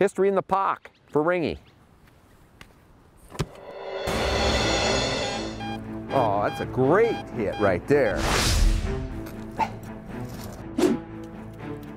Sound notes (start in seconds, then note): 3.4 dramatic music; 3.5 beeping; 8.8 suspenseful music